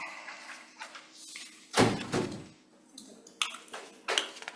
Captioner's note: papers rustling